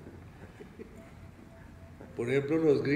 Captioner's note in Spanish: Risas